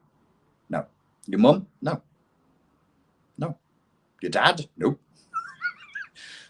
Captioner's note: laughs